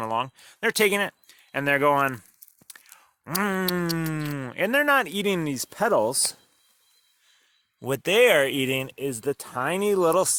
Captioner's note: eating sound